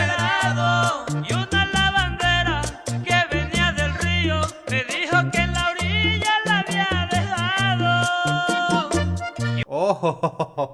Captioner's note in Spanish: risas